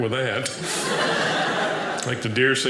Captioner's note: audience laughing